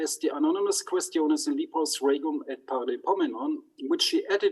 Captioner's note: speaks in foreign language